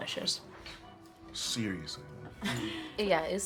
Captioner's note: Margaret chuckles